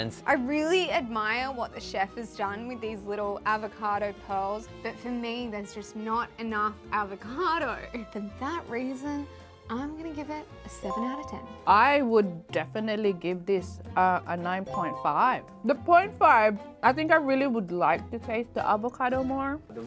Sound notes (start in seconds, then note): 10.8 chime; 14.7 chime